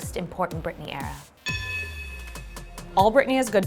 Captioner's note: bell rings